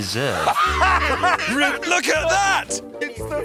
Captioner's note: both laugh